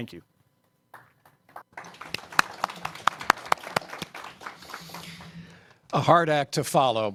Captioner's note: applause